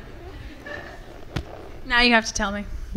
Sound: laughter from the audience

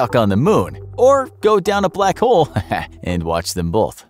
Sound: tee-hee

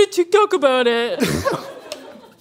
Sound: laughing

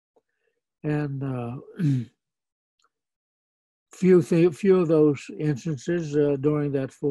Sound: clears throat

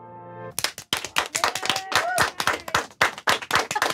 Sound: group cheering

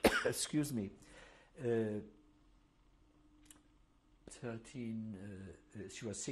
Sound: pauses for 3 seconds

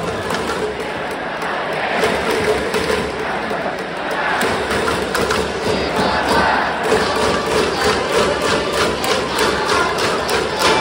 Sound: Hanshin Tigers' fans chanting, cheering, and singing

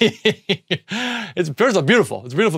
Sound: laughs

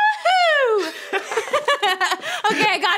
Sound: both laugh

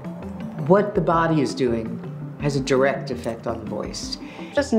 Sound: narrating

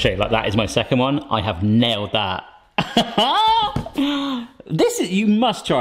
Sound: laughs

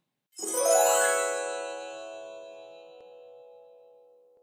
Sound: bright chiming

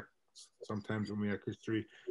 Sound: mutters

